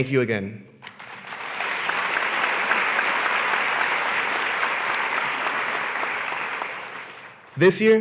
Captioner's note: applause